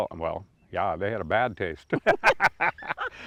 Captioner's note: laugh